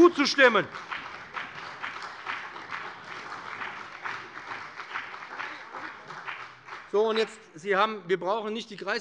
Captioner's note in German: Beifall bei dem BÜNDNIS 90/DIE GRÜNEN und der CDU